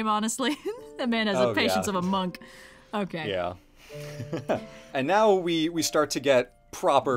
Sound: laughs

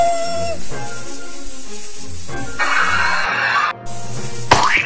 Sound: all screaming

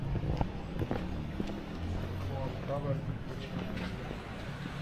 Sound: people chattering

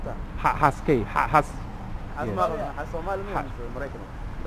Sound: somali

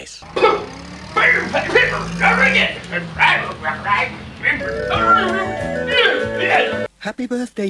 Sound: grumbles dreadfully

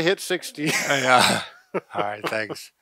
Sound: chuckling

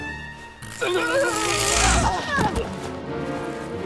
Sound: zapping

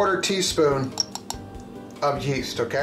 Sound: tinking

